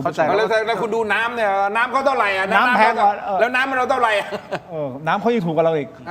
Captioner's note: laughs